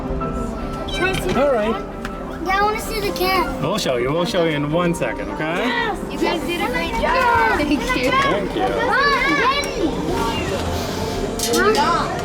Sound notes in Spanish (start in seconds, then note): 9.0 Charla de fondo